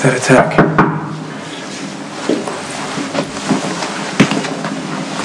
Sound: knock on door

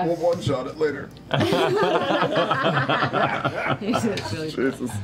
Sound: laughter

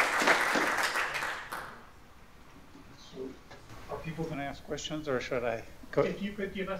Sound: applause

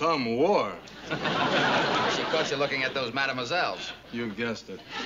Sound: chuckles

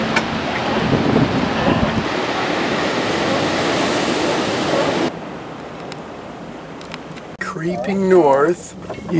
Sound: sea lions barking, waves crashing

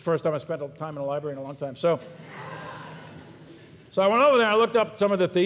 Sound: audience laughs

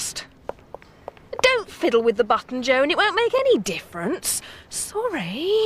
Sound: footsteps

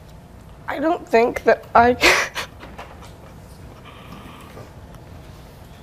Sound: stifled sobbing

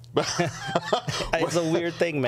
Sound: laughing

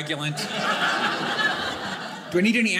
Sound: audience laughing

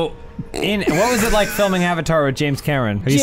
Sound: uncontrolled laughter

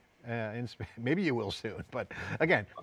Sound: chuckles

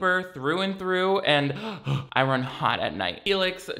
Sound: huffs

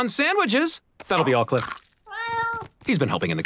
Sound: meowing

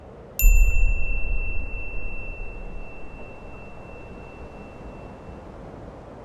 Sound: wind blowing; beep

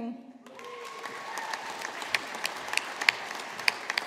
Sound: audience applauding

